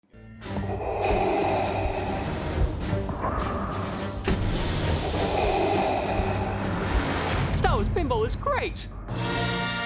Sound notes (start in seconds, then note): 3.1 Darth Vader breathing